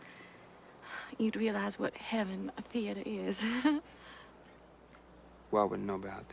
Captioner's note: laughs